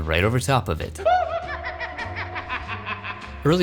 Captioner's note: maniacal laugh